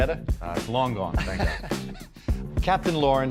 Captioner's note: laughing